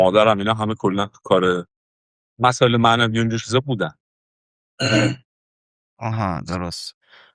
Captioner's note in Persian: گلویش را صاف می‌کند